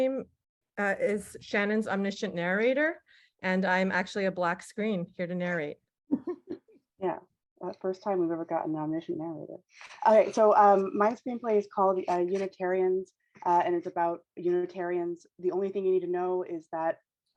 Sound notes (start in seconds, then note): 6.1 giggles